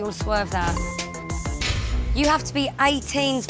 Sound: bell chimes

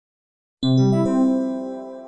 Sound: computer start up SFX

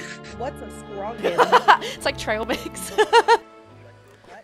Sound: laugh

